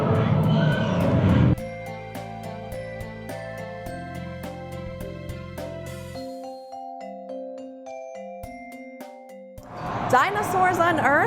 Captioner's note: roar